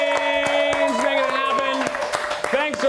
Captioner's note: crew cheers